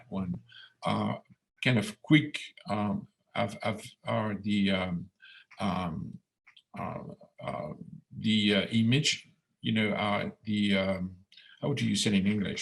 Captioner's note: speaking in French